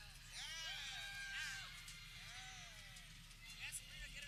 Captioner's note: people cheering